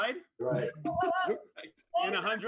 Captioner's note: laughing